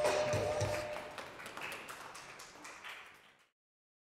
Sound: applause

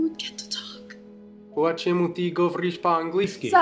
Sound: speaks Russian in Ukrainian accent

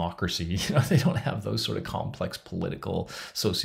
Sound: laughs

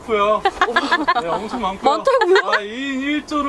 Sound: real laugh

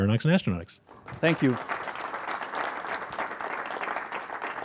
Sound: audience claps

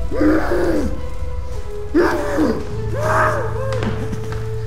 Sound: Simon grunting

